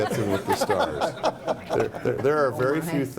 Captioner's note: laughing